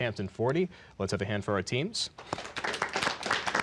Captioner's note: applause